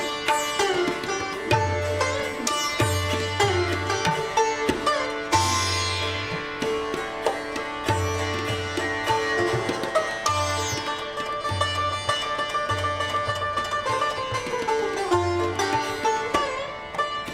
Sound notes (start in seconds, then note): none